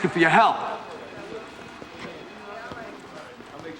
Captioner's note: phone ringing